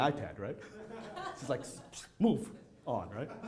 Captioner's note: audience chuckling